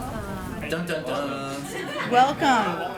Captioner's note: laughter